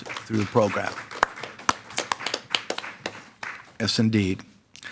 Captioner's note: audience applauds